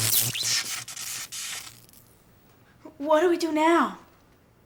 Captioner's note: hissing